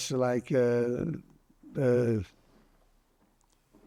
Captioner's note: pauses 8 seconds